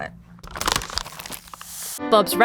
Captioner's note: paper ripping